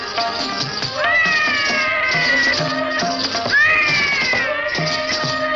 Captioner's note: baby crying